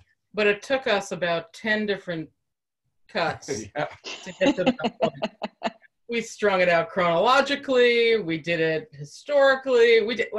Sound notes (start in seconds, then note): 4.0 laughter